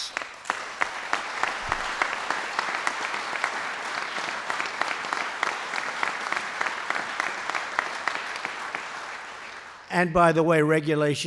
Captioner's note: applause